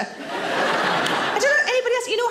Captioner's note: audience laughing